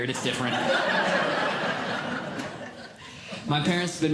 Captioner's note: audience Laughing